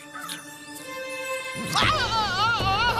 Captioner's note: screaming